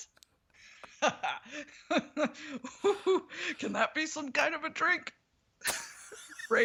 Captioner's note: laughs